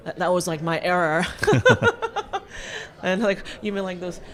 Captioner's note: laughs